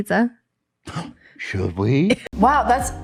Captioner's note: gasps